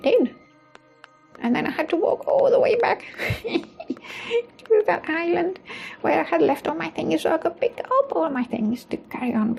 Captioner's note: chuckles